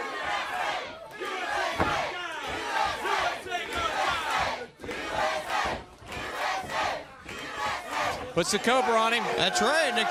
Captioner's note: crowd cheering